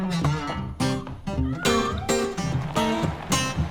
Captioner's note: meowing